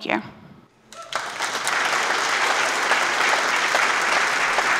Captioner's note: applause